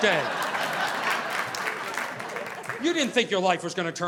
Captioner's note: audience applauding